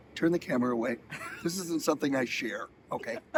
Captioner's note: person behind camera laughing